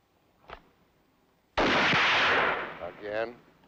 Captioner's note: gun fires